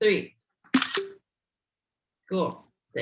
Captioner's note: camera shutters